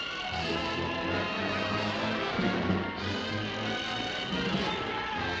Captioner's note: crowd clamoring